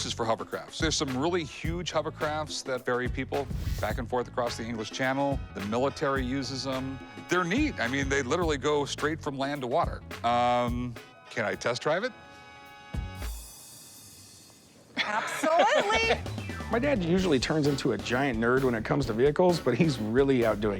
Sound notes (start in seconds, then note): 14.9 laughs